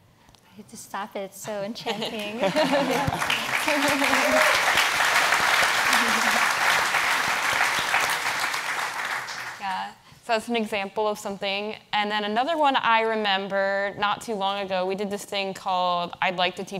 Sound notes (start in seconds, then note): 2.4 audience applauds